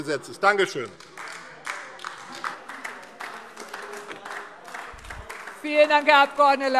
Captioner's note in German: Beifall AfD - Zurufe